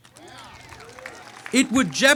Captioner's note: audience cheering